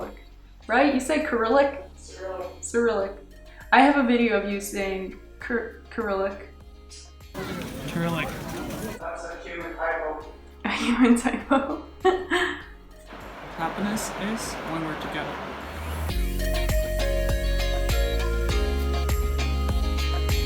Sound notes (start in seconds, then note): 10.0 laughs; 11.3 continues laughing; 16.2 outro music